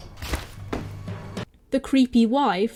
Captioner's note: gunshot